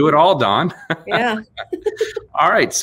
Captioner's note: laughs